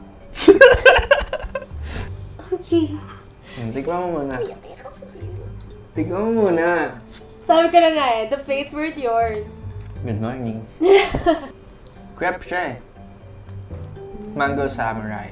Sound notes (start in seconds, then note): 0.4 laughs; 10.8 chuckles